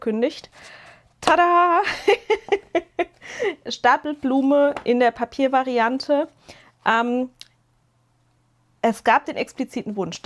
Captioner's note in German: gelächter